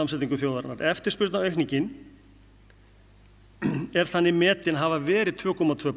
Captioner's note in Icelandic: ræskir sig